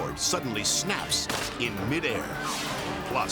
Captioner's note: cord snapping; dramatic whoosh